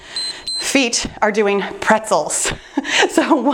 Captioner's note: timer beeps